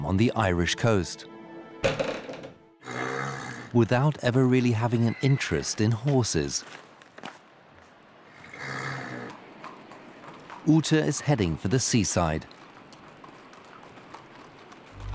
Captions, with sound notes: [horse grunts] ...without ever really having an interest in horses. Ute is heading for the seaside.